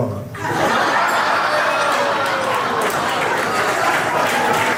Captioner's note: audience laughing